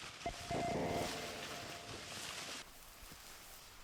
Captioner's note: leaves rustle; distorted electronic tones ring; leaves rustle